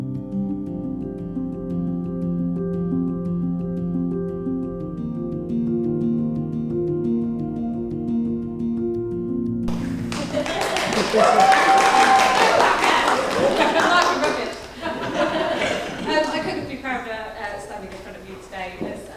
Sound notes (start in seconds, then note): 9.6 hands clapping; 11.3 audience cheering; 14.9 audience laughing